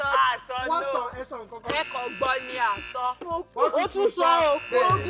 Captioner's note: buzzer pressed; buzzer pressed